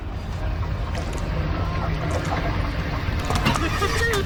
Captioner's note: what sounds like water pouring down the wall